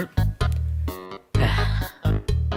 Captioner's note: unpleasant sigh